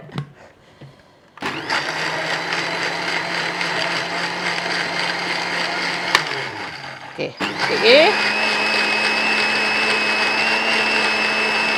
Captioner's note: sound of blender